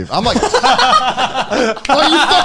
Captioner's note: laughing